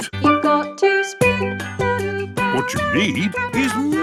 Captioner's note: radio